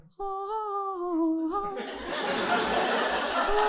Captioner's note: humming